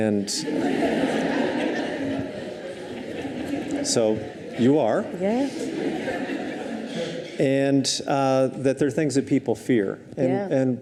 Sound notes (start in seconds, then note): 0.3 audience laughs